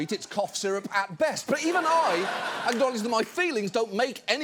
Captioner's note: audience laughs